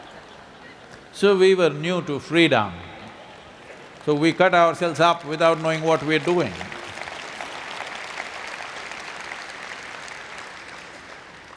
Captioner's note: laughter; applause